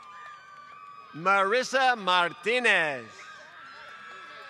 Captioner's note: applause